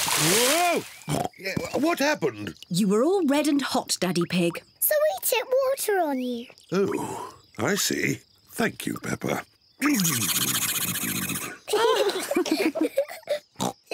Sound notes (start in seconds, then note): 1.1 oinks; 9.8 spluttering; 11.4 all laugh